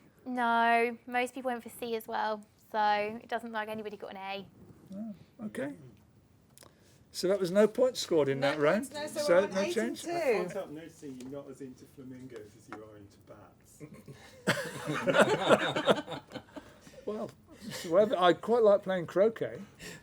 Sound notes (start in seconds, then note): 13.9 laughter